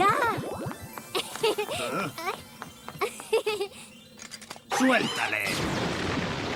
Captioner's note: giggles; blast